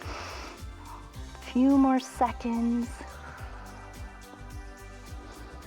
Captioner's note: exhales